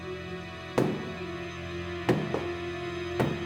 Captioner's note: foot taps